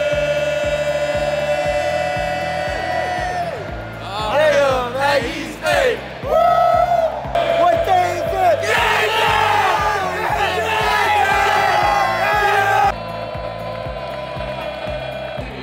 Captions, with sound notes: (group chanting) - What day is it?! (crowd screaming)